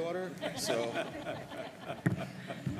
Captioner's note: laughter